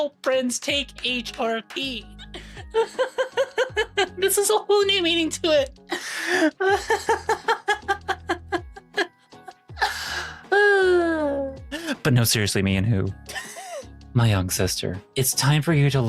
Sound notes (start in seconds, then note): 2.6 laughs; 6.0 laughs